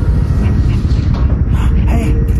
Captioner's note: excited